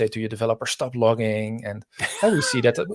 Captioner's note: laughing